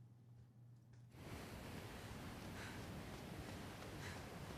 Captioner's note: waves splashing